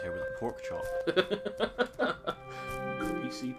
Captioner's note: laughs